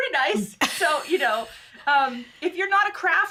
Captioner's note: chuckles